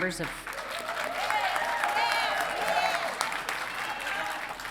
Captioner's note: audience cheering